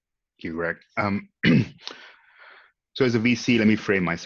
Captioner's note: clears throat